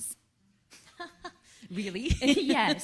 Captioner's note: laughs